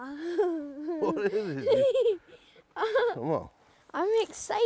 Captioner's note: laughing